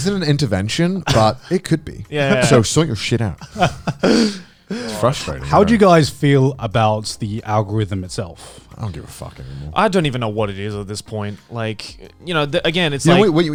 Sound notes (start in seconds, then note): 3.4 Garnt laughing